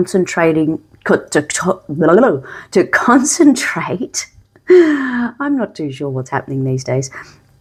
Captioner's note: laughter and gasps